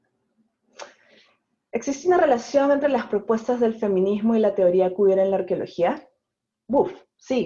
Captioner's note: in Spanish